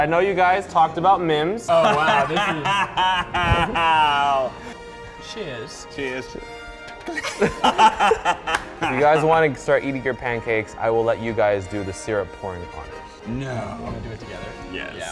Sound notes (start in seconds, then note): 1.7 laughs; 7.0 Try Guys laugh